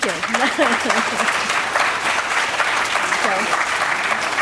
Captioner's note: applause